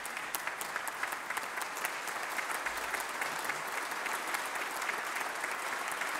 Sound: applause

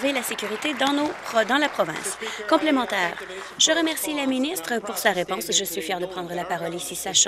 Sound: applause

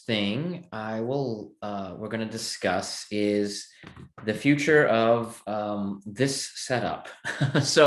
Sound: chuckling

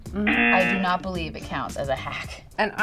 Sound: buzzer rings

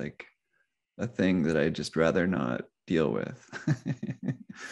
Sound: laughs

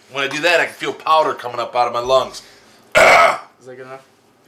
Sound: coughs

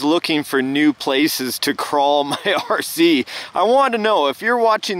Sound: laughing

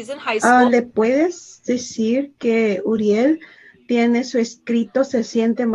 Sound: speaking Spanish

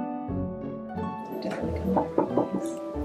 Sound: background talking; door knocking

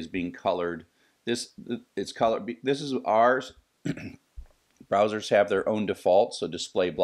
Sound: cough

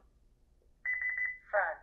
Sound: beeps

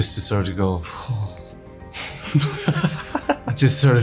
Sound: laughing

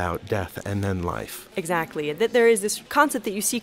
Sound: voiceover

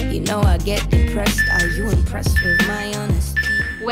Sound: timer beeping

